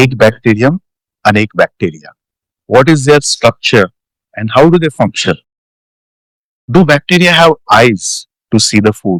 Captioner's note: Hindi